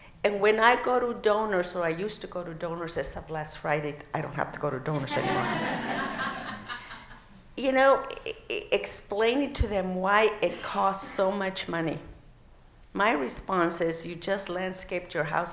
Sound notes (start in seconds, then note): 7.6 laughing